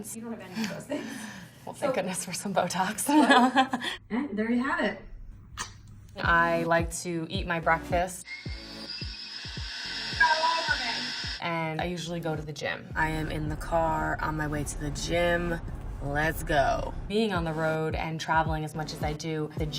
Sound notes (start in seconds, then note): 3.7 laughs